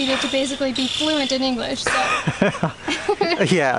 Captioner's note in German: Gelächter